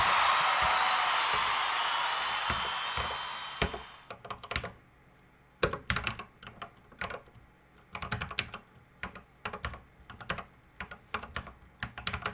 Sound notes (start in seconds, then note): 5.7 typing on a C64 keyboard